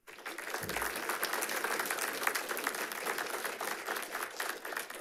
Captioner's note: audience applauding